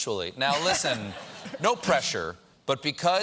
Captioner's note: laughter